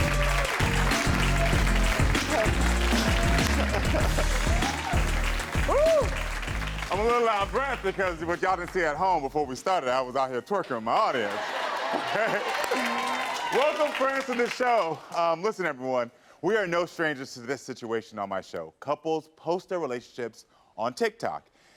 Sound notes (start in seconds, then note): 3.4 Karamo chuckles; 11.2 audience cheering